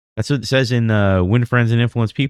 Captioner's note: uh